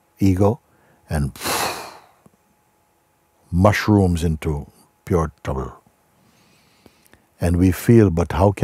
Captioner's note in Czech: silný výdech